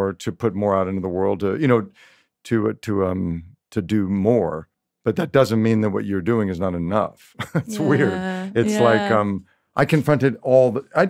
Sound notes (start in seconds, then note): 7.4 laughs